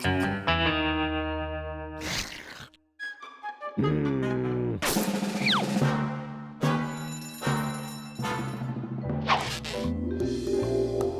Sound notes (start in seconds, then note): none